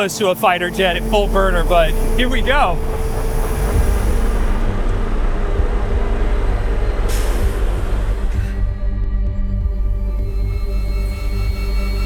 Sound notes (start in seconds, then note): 3.1 jet humming; 7.0 canopy hissing; 8.9 ominous music; 11.8 jet whistles and zooms